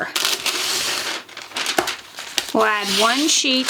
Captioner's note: paper rustling